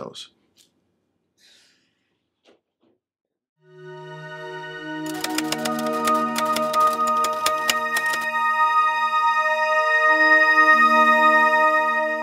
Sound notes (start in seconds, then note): 5.0 typewriter clicking; 8.9 instrumental music